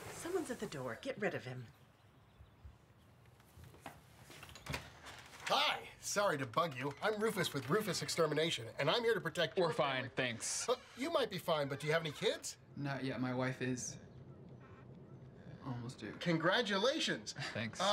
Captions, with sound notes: Someone's at the door, get rid of him. (door opens) Hi! Sorry to bug you. I'm Rufus with Rufus Extermination, and I'm here to protect your family-- -We're fine, thanks. -You might be fine, but do you have any kids? Not yet, my wife is... almost due. -Congratulations! -Thanks.